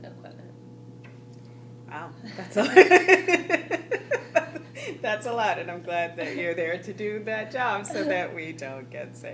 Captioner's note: laughing